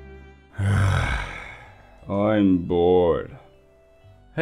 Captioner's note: sighs